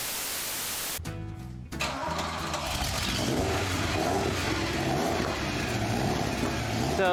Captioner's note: car engine starts